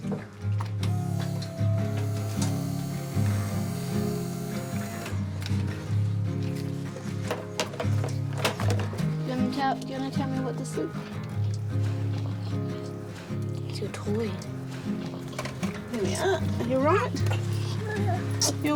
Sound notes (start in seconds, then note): 0.8 hydraulics whirr; 2.8 cheerful guitar music